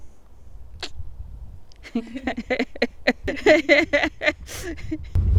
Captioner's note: laughs